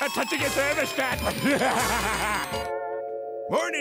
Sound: laughing

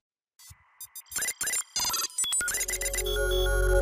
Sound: logo beeping

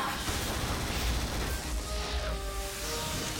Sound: energy surging

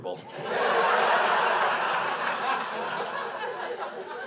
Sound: crowd laughs

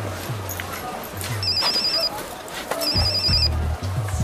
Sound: phone ringing

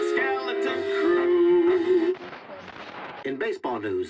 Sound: radio static

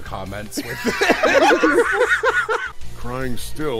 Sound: laughter

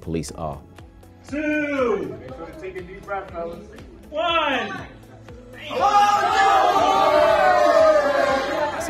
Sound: cheers and claps

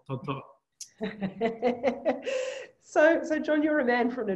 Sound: laughs

